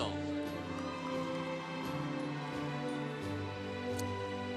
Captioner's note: congregation cheering